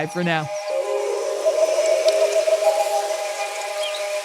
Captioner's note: birds chirping